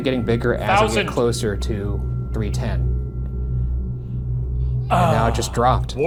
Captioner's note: Shane faintly speaking